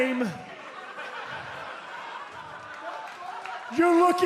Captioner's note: laughter